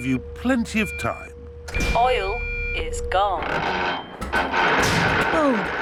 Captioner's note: creaking